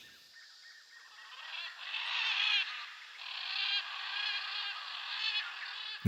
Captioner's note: animals vocalizing